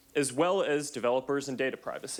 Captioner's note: none